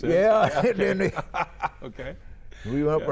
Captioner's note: chuckling